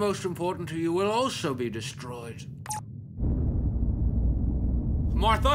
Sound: beep

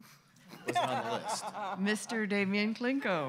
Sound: laughing

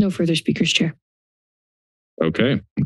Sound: silence

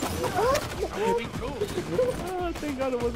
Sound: laughter

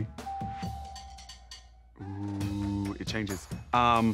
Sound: bell ringing

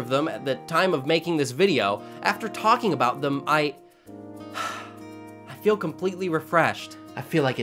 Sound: heartfelt Sigh

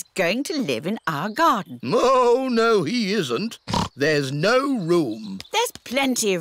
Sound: oinks

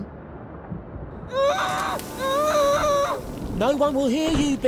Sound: muffled screams

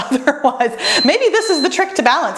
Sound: timer beeps

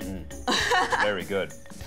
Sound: laughs

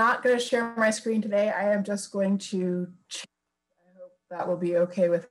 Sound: audio distorts

